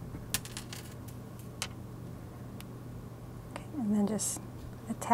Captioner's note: materials clinking